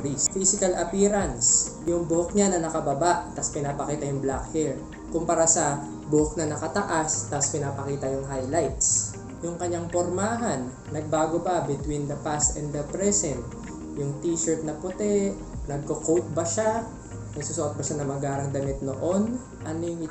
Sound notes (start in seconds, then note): none